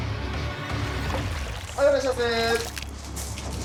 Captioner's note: speaking Japanese